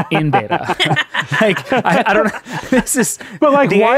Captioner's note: all laughing